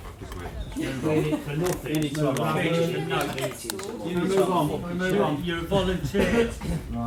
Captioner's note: general chatter